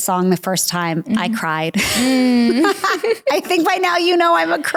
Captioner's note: giggling; laughs